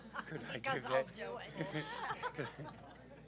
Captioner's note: laugh